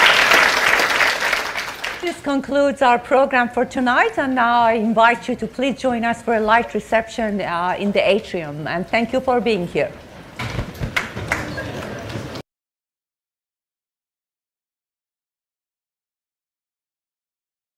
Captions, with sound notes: This concludes our program for tonight. And now I invite you to please join us for a light reception in the atrium. And thank you for being here. (audience murmuring)